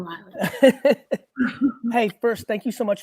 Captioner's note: laughs